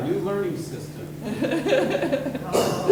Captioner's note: laughing